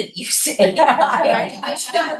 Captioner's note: laughing